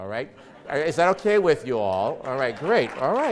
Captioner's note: laughs